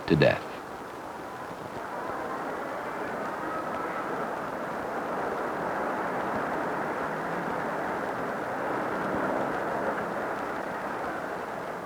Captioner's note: street sounds